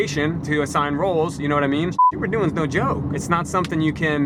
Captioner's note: beep